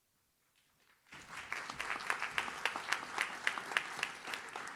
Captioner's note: audience claps